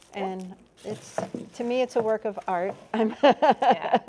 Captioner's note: laughs